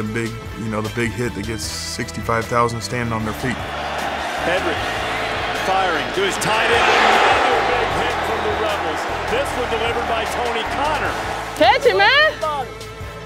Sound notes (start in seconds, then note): 4.3 voiceover; 7.0 crowd cheers